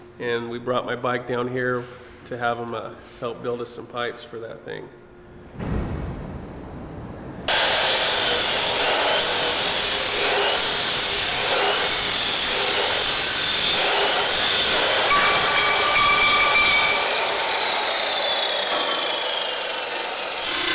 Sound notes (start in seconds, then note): 7.8 saw cutting noisily